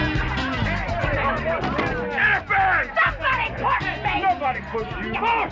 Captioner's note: both yelling